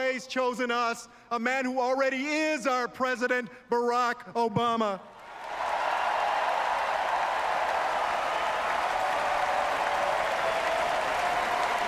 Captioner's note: applause and chanting: "four more years"